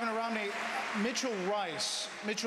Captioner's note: applause